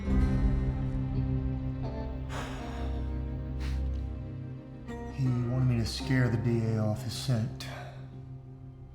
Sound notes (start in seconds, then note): 2.3 sighs deeply